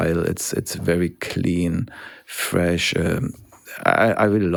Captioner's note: none